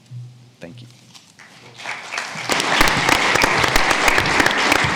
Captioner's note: audience clapping